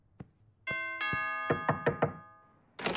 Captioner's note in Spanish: ding dong; yyyy knock knock al mismo tiempo aparentemente